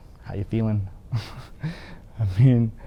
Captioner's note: laughs